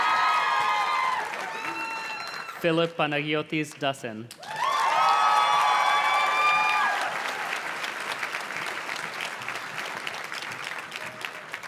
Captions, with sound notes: Philip Panagyotis Dasen. (audience cheers and claps)